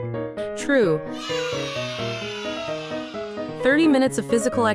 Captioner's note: children cheering